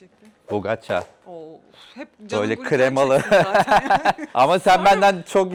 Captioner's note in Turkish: kahkaha